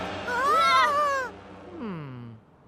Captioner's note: screaming